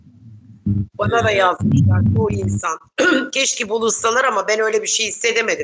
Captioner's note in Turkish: boğazını temizler